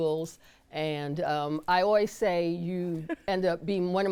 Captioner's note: chuckles